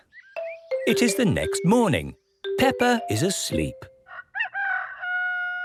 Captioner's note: cock-a-doodle-doo